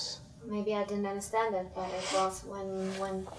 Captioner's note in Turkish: none